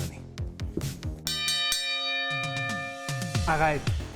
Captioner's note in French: tintement